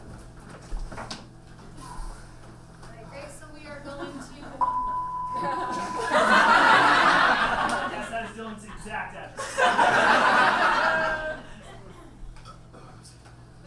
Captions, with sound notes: All right, great, so we are going to (beep). (audience laughs) - Yes, that's Dylan's exact address. (audience laughs)